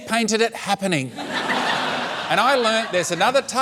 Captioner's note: laughter